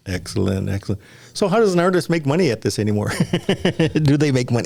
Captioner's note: laughs